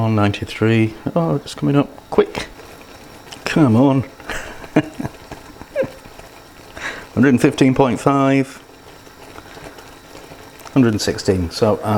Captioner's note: laughs